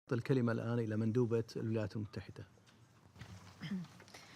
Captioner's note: in Arabic